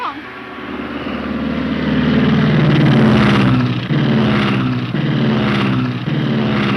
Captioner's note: plane engine rumbling and sputtering